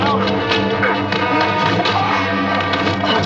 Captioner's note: Victor resmunga; John resmunga